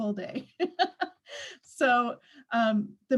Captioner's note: laughs